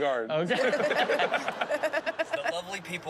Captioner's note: laughter